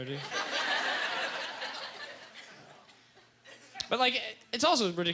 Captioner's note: audience laughter